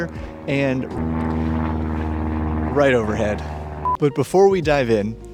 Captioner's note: plane sounds